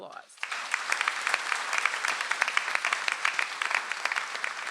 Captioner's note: audience applauds